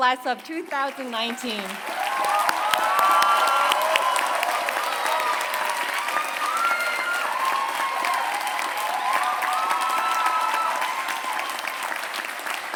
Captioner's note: applause